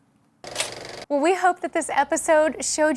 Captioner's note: film rolling sound